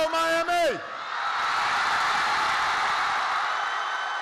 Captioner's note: applause